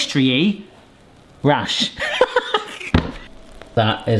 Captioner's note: laughs